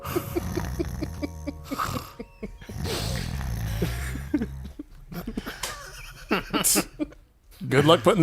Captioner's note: snoring